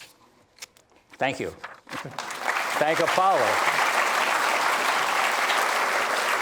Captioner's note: applause